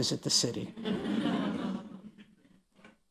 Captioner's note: laughter